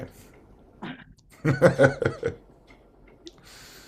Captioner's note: laughs